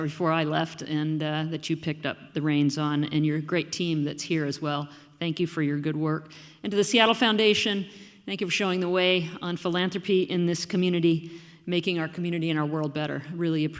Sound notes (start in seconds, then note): none